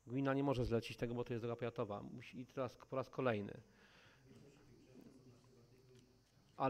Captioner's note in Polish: Głosy z sali